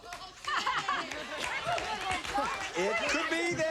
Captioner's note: laughter